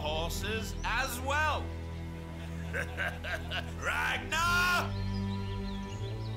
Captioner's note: laughing